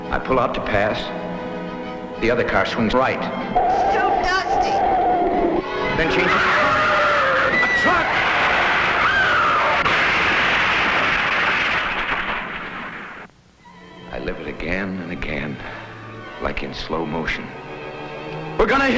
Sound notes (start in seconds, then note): 6.3 tires screeching; 9.7 crashing